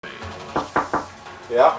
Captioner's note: knock, knock